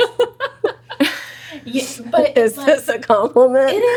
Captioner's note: laughs